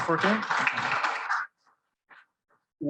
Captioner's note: audience applauding